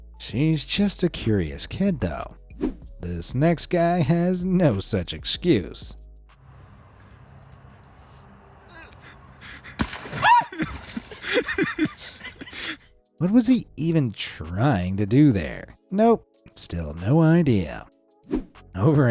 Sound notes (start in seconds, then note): 9.8 ice thuds; 10.0 cameraman laughs; 10.1 person shrieks